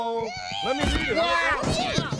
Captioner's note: Leona screeches